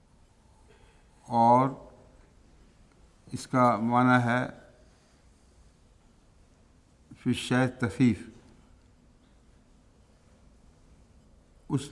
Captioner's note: Arabic; Arabic